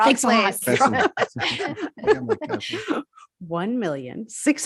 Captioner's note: all laugh